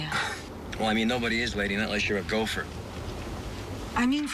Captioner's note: scoffs